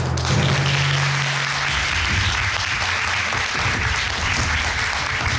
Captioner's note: audience applauding